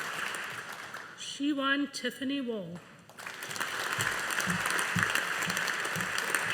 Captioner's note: audience applauding